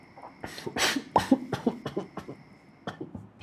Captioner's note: cough...cough...cough